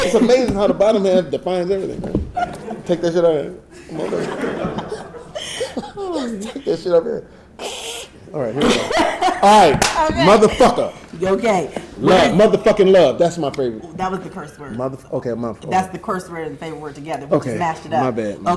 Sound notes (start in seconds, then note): 3.8 audience laughing; 7.9 exclaims